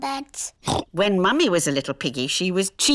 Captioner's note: oinks